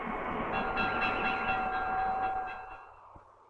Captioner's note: bell ringing; traffic whirring